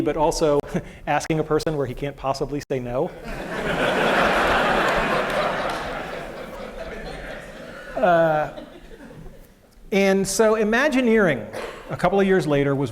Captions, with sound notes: but also asking a person where he can't possibly say no. [LAUGHTER]. And so imagineering, a couple of years later,